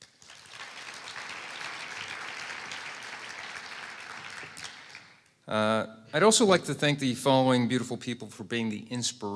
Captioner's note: applause